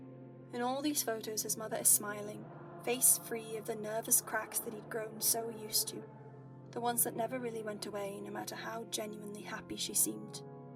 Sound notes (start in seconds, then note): none